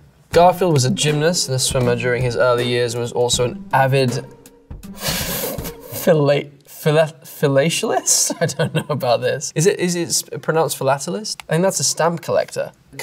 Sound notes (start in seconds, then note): 4.1 stammers; 8.2 chuckles